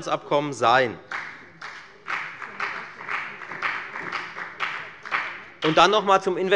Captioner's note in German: Beifall bei der FDP